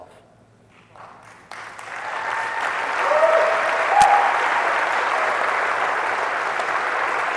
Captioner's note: applause